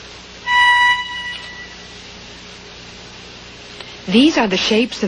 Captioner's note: tone played